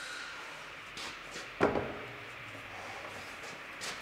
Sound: none

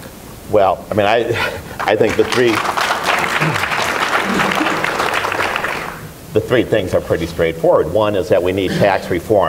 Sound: applause for Emmer

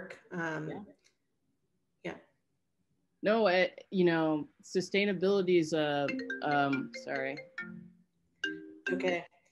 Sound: phone rings

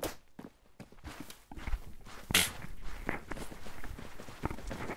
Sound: spits in the backround

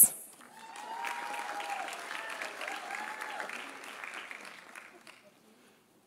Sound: audience applauding; audience cheering

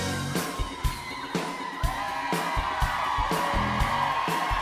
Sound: crowd cheers

